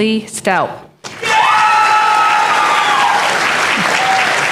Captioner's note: applause